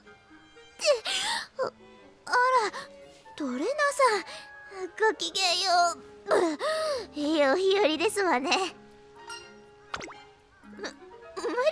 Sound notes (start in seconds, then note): 1.1 breath